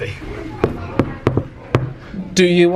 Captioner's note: door knocking